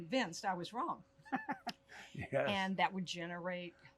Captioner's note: laughs